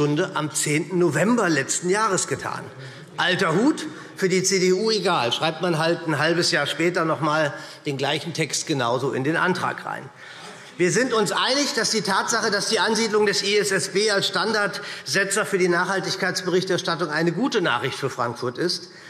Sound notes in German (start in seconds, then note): none